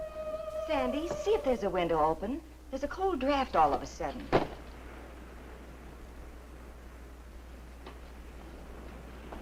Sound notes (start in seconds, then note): 4.2 waves crashing nearby